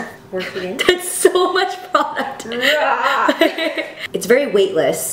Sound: laughs

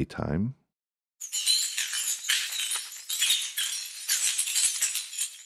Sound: tile tinkling

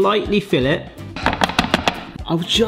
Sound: tapping

